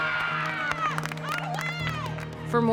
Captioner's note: crowd cheering